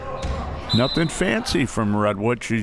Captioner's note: whistle